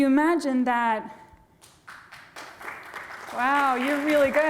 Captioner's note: applause